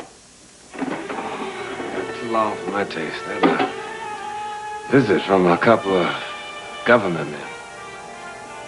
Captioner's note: sighs